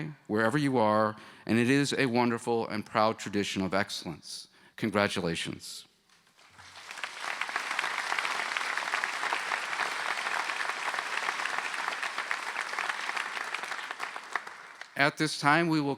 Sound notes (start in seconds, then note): 6.3 applause